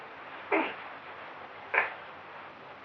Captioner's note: grunting